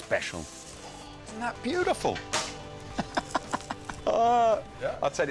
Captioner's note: laughs